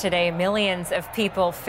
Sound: crowd noise

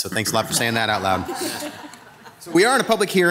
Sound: all laughing

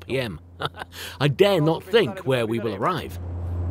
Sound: laughs

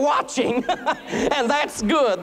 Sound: laughter

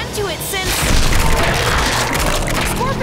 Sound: roaring

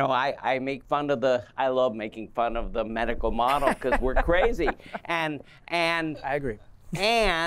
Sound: laughter

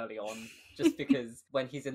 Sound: laughs

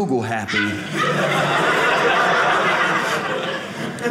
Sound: audience laughing

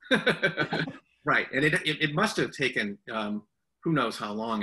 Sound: laughs

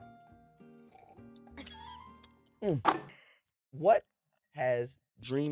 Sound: laughs

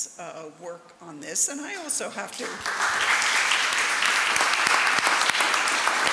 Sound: everyone applauds

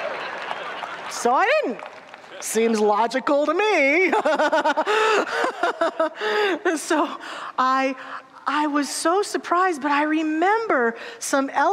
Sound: audience laughter; laughing

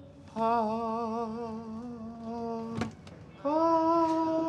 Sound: Rufus humming

